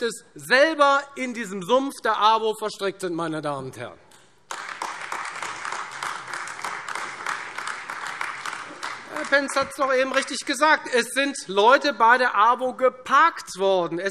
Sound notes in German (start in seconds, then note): 4.4 Beifall Freie Demokraten und AfD